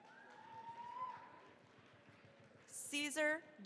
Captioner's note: cheering, applause